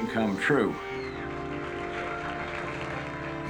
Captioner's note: applause